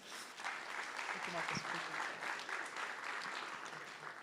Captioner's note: applause